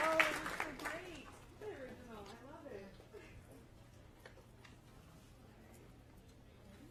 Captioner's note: applause